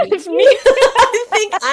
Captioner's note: laughing